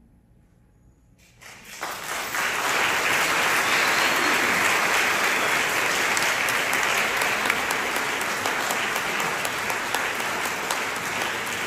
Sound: applause

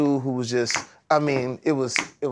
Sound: snaps fingers

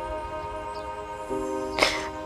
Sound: sighs

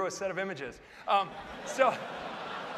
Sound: laughter

